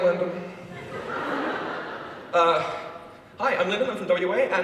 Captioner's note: audience laughs